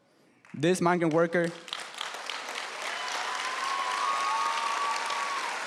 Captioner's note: applause